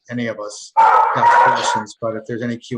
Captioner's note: dogs barking